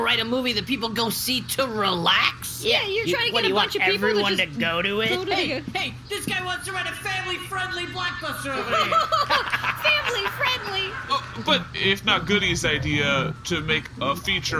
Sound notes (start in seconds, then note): 6.1 shouting; 8.4 a distant crowd laughs uproariously; 8.4 laughing